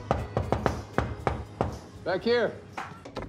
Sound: knocking

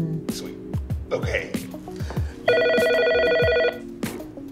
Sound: phone rings

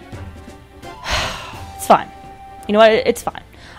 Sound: sigh

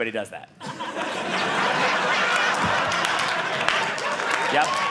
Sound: audience laughing

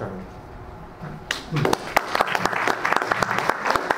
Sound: claps

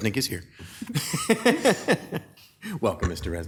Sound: speaker laughing

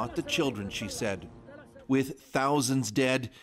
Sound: speaking alternate language

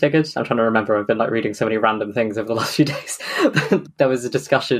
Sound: laughs

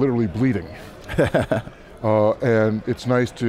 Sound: chuckles

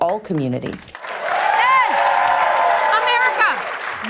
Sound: cheering and applause

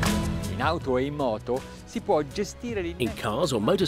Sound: laid-back music; speaking in foreign language

